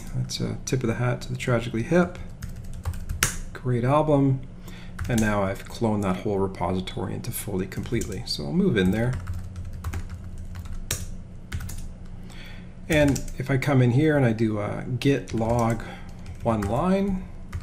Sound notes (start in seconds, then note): 9.2 keyboard clicking